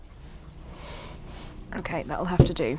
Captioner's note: splashes